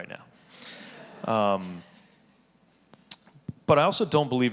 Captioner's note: audience laughing